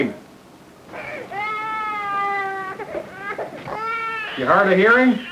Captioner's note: baby crying